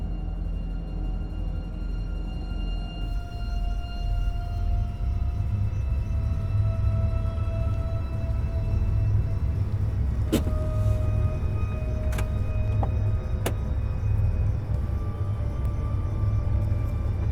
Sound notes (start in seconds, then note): 0.1 soft tense music; 12.1 car door clicking; 14.3 soft tense music